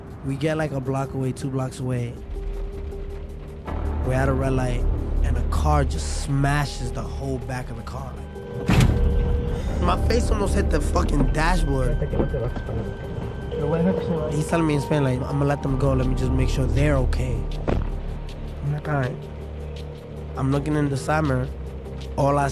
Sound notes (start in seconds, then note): 8.6 car crashes